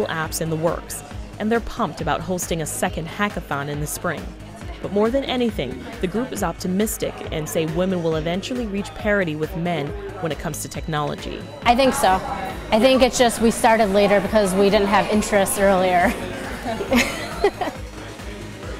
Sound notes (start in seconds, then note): 14.9 laughs